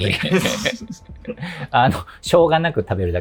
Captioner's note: laughing